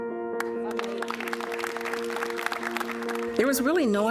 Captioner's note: delicate piano music; applause